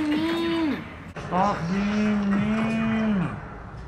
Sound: slow motion sounds

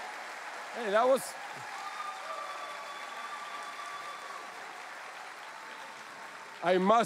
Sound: cheering

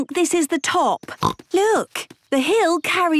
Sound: snorts

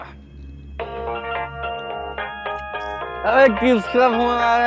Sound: phone ringing

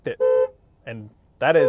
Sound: honking

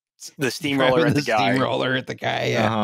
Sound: laughing

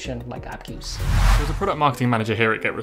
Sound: intense whooshing

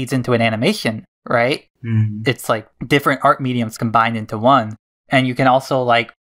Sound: none

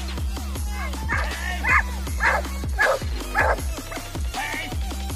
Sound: barking

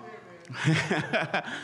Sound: laughs

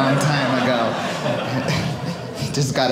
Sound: audience laughing

